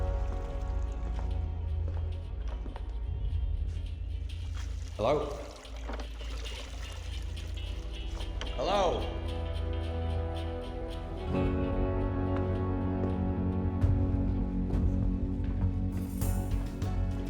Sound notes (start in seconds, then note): 0.9 muffled music in headphones; 5.6 water sloshing; 9.8 muffled music in headphones